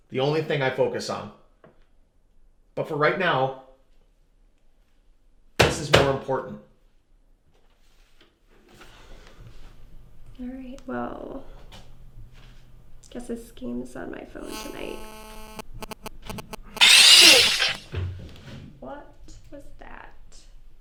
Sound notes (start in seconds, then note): 14.4 buzzing; 17.0 startling tone